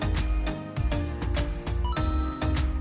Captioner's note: ba ding!